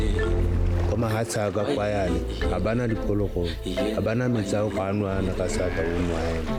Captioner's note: speakers speaking in foreign language